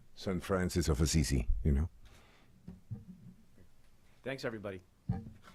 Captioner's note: speaking spanish